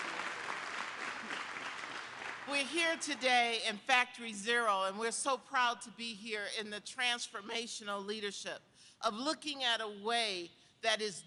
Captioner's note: applause